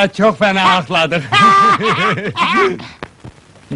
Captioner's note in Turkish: karşilikli gülerler